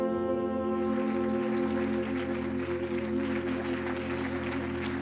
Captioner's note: audience clapping